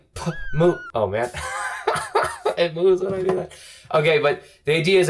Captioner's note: chuckles